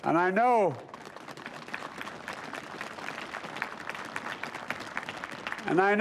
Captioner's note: applause